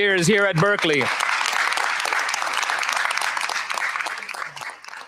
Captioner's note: applause